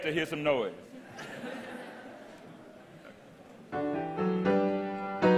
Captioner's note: audience laughter